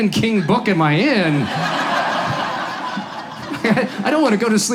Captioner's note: audience laughs